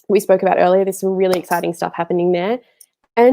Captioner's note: clapping hands